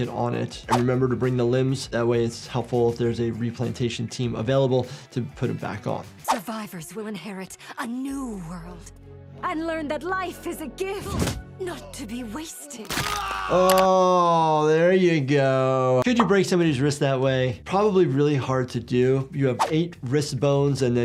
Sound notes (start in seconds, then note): 12.7 person yells in agony